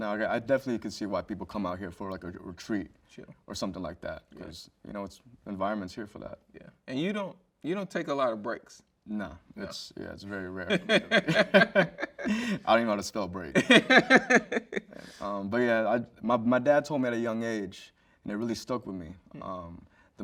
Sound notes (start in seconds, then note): 10.7 both chuckle; 13.6 host chuckles